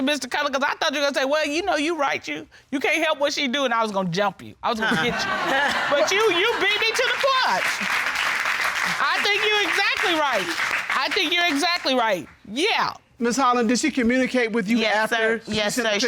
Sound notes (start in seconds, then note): 4.9 chuckles; 5.6 audience applauds